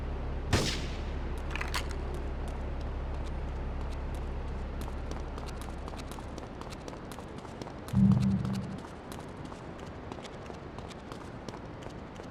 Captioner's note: gun firing